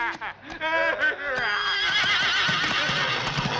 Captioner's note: horse whinnying; screams